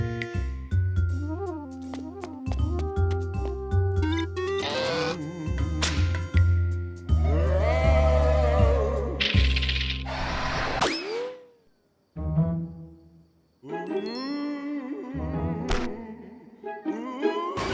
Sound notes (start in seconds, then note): 3.9 electronic beeping; 7.2 ghostly moaning; 13.7 ghostly moaning